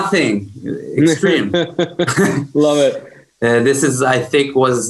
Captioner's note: laughs